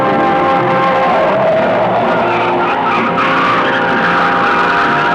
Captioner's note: tires squealing